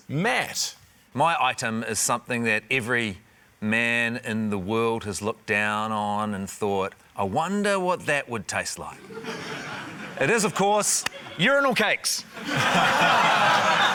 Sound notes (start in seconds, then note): 9.1 scattered laughter; 12.3 laughter